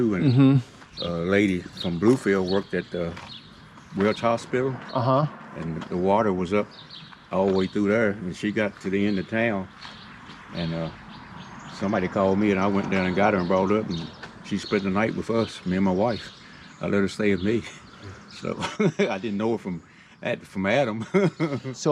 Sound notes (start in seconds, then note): 17.7 chuckles; 20.8 laughs